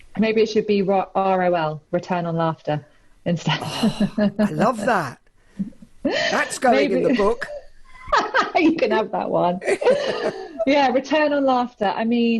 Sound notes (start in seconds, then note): 9.6 laughs; 9.6 laughs loudly